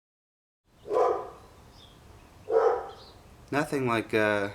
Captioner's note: Sasha barking